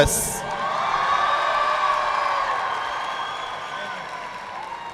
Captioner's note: audience clapping